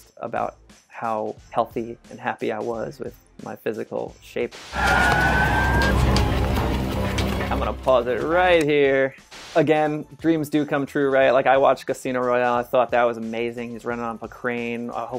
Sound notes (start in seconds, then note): 4.5 static noise; 4.7 sirens; 6.2 dramatic music